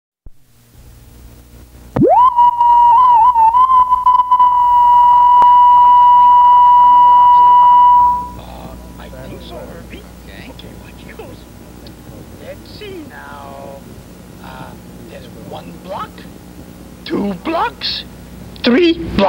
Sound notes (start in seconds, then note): 0.3 static hisses; 2.0 reference tone beeps